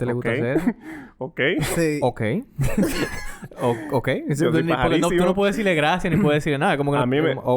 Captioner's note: laughs